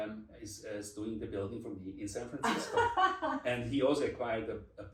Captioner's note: laughs